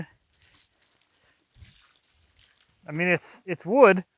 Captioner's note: water sloshing